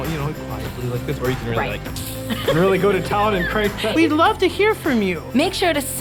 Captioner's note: people talking